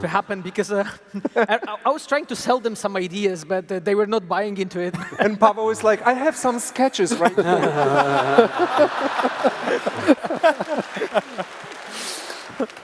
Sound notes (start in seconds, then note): 7.1 laughter; 10.3 applause